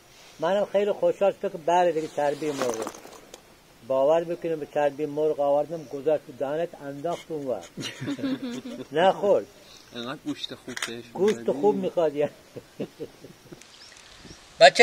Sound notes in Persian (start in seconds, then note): 7.7 صدای خنده